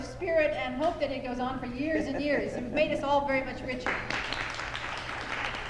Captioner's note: applause